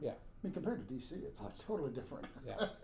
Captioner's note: laughing